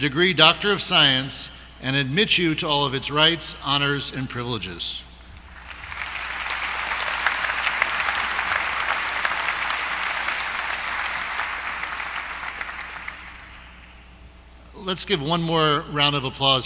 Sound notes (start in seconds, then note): 5.4 applause